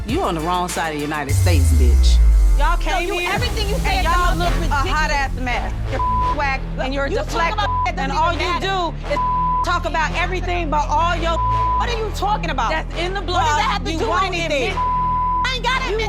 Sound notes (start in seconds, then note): 5.4 beep; 9.2 beep; 11.8 beep; 14.8 beep